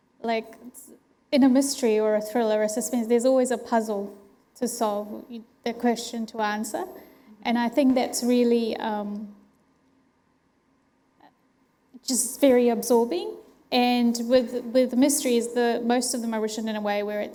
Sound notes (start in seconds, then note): none